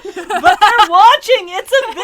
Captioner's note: general laughter; laughs